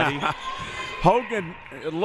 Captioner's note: laughs